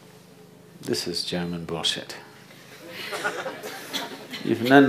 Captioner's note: laughter; 笑聲